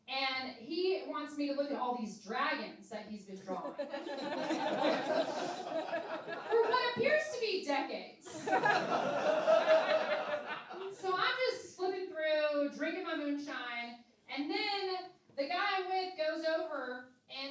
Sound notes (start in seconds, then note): 3.5 laughing; 8.3 laughing